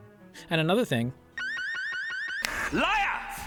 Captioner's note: divers alarums